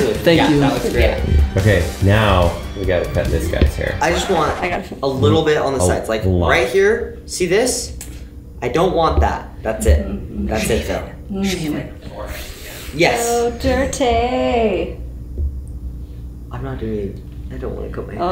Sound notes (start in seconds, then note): 11.8 whispering